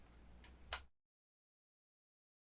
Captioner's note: lightswitch clicks